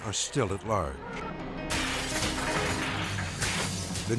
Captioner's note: glass shattering